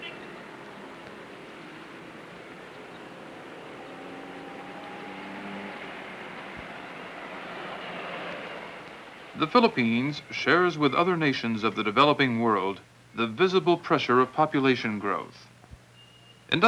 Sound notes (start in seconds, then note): 4.2 motor engines